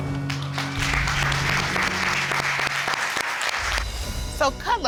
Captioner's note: audience applauds